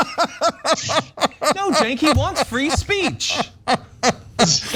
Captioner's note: laugh